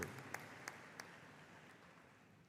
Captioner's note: applause